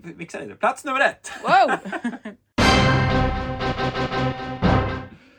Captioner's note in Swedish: skratt